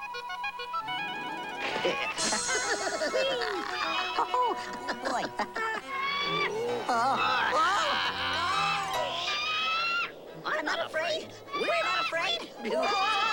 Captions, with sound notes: ( laughing ) OH, BOY! ( bird screeching ) I'M NOT AFRAID! WE'RE NOT AFRAID!